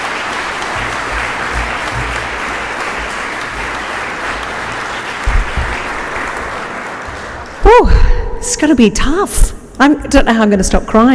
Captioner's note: applause